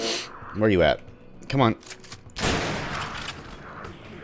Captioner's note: railgun fire